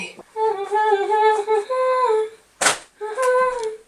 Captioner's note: humming